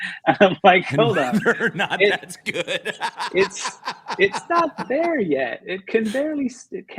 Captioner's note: laughter